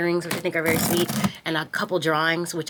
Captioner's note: tape tearing